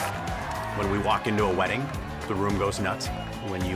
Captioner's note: crowd cheers and applauds